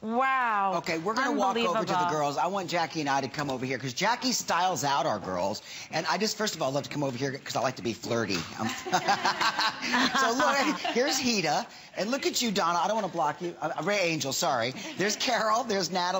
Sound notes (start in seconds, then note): 8.6 laughter